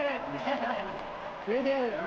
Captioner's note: laughs